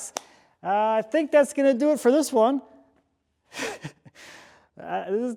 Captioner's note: chuckles